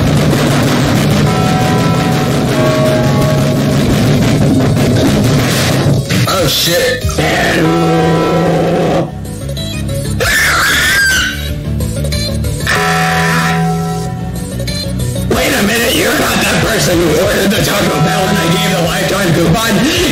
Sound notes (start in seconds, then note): 5.4 something falls IRL again; 7.1 monke grunt